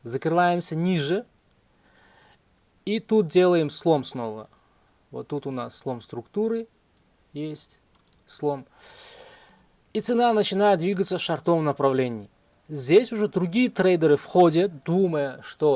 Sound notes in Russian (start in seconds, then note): 8.5 вздыхает